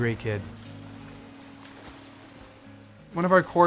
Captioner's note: water splashes